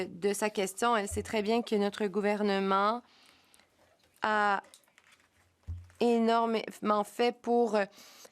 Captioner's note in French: voix de l'interprète